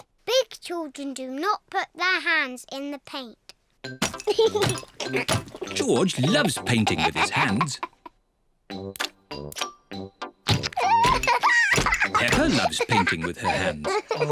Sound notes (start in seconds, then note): 4.2 giggles; 10.7 laughs